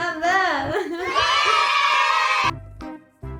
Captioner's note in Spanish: risa